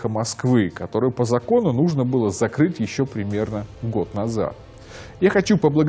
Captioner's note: Russian